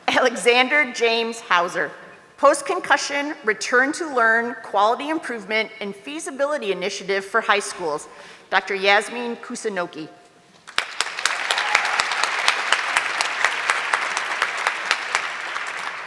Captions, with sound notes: Alexander James Hauser, post concussion, return to learn quality improvement and feasibility initiative for high schools, Dr. Yasmin Kusunoki. (audience clapping)